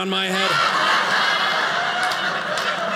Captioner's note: audience laughing